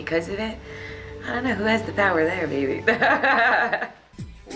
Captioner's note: laughing